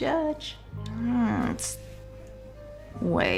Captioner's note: groans